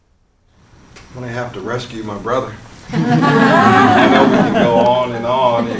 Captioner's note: laughter